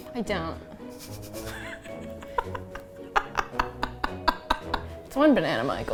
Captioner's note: laughs